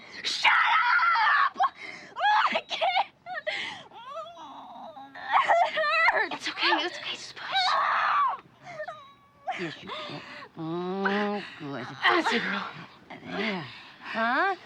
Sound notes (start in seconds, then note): 4.0 groaning; 8.6 groaning